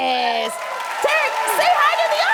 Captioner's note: cheering and applause